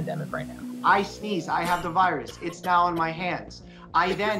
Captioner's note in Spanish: experto 2 hablando en inglés